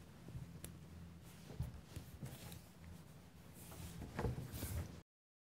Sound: clothing rustles

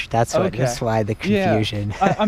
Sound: laughs

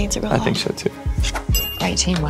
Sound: dings

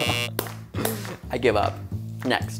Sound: buzzer buzzes

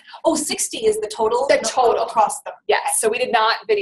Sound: voiceover

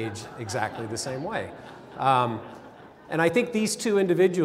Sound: laughter

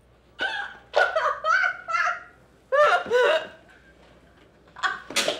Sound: hysterically laughing

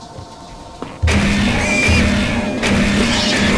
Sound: footsteps

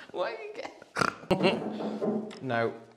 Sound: insistent Knocking

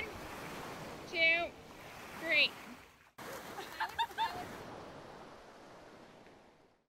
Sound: laughter

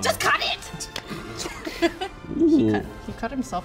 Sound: laugh

